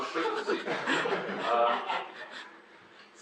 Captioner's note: audience laugh at slideshow transition